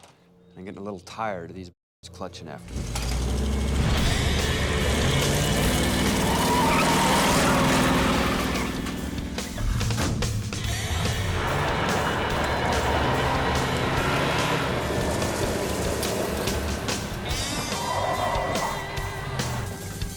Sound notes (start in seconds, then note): 4.3 tires screech; 9.6 vehicle door slams; 11.6 engine revs; 17.7 tires screech